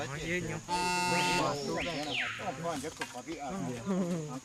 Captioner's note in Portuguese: Conversa na língua dos Cinta-Larga